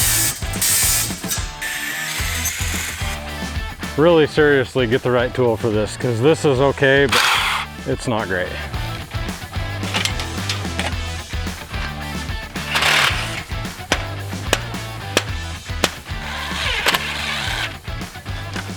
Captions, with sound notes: (loud grinding and sawing) Really. Seriously. Get the right tool for this. 'Cause this is okay (loud whir) but it's not great. (lively rock music) (metallic clang) (loud bangs) (mechanical whir)